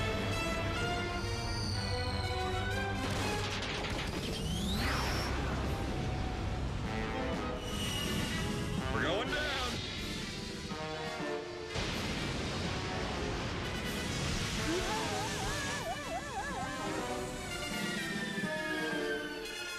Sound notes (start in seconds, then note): 11.7 thunder